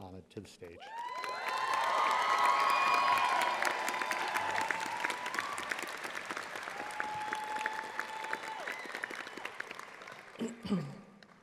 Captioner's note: audience applauding